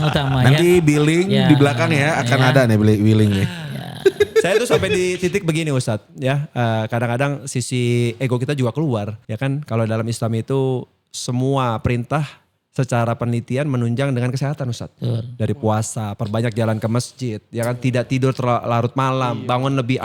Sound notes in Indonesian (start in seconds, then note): 3.8 tertawa